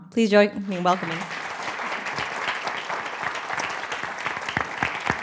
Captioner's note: applause